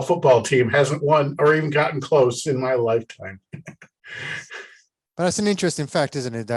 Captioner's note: chuckles